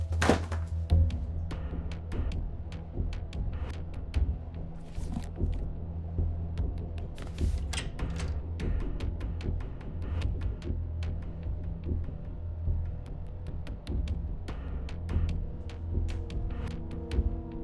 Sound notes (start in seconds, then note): none